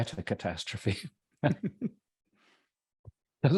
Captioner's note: laugh